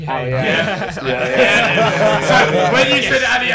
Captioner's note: laughing